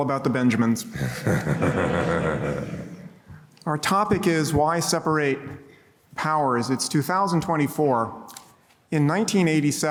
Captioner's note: laughing